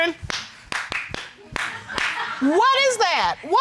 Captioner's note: clapping